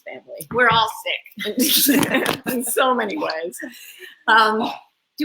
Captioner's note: laughs